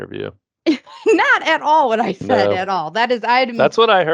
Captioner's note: laughing